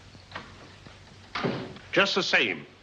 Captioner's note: door opens; door closes